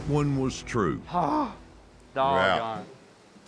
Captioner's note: groans